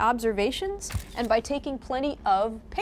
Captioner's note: camera shuttering